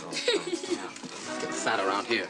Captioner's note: giggles